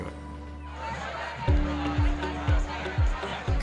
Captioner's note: students murmuring; bright upbeat music